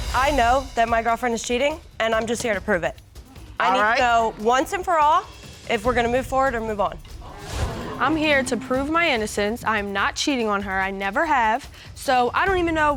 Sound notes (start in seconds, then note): 7.2 audience gasps